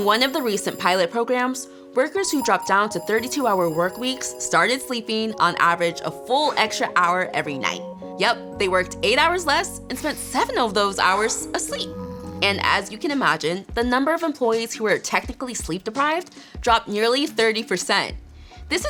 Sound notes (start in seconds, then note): 0.0 alarm clock ringing; 2.2 ringing continues; 11.9 snoring